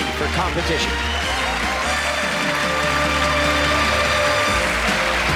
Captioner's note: applause and cheering